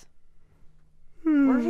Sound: yawns

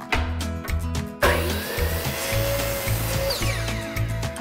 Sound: guitar and keys music continues; saw whirs

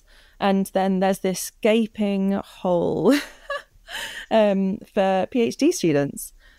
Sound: laughs

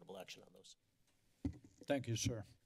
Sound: microphone rustling

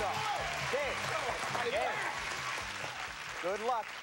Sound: cheers and applause

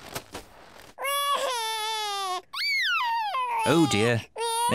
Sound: crying

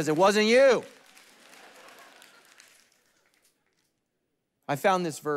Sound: congregation laughing

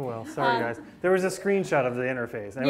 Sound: class laughing

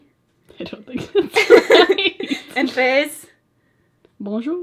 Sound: both laugh

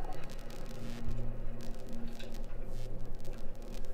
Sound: lights buzzing

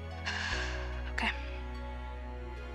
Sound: exhales shakily

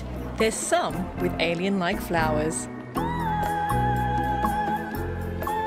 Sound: none

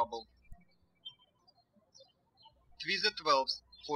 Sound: birds chirping

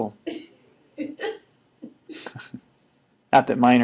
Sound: scattered laughing

